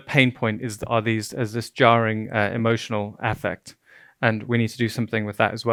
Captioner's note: stuttering